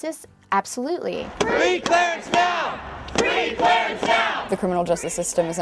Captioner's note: crowd